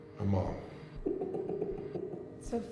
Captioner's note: keith laughs